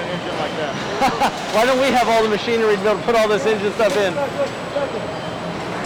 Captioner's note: laughs